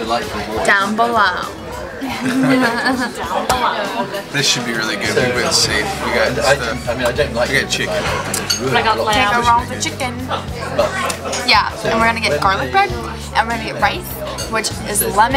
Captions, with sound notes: - Down below. (laughter) - This should be really good... We went safe, we got chicken. - Can't go wrong with chicken. Yeah, and we're gonna get garlic bread, and we're gonna get rice, which is lemon